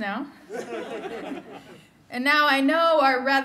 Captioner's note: laughter